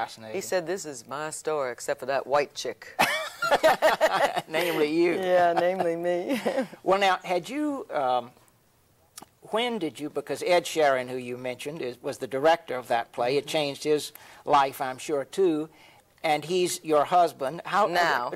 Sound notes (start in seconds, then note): 3.0 both laughing